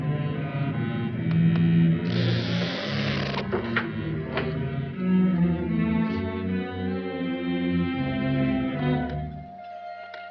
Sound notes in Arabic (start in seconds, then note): 2.0 صرير الباب; 3.7 نقرات القفل